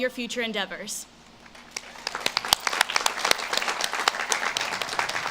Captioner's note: audience claps